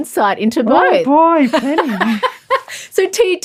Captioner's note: laughs